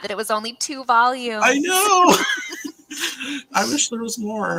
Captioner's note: both laughing